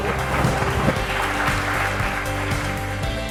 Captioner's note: applause